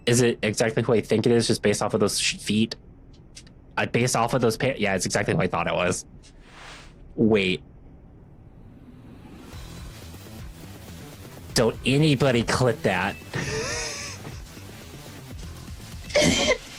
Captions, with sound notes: Is it exactly who I think it is just based off of those feet? Based off of those pants. Yeah, it's exactly who I thought it was. Wait. Don't anybody clip that. (laughing)